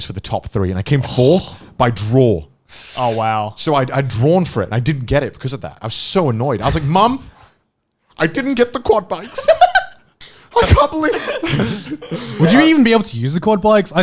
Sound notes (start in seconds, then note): 9.3 laughing; 10.6 all laughing